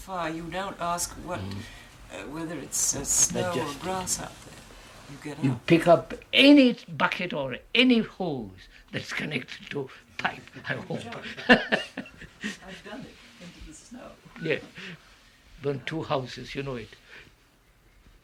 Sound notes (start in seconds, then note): 12.6 laughs